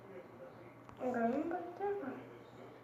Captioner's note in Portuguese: alguém falando no fundo